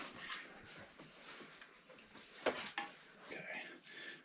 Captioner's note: wire whirring and clanking